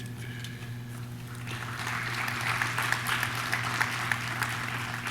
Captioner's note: audience claps